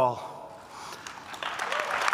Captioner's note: applause